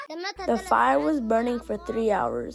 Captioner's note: through translator